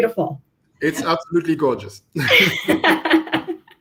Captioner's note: laughter